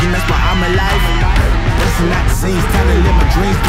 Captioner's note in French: Cris d'encouragement